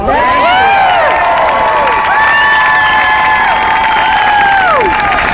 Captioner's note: crowd cheers